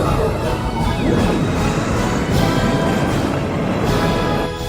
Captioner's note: explosion